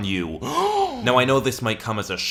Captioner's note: gasp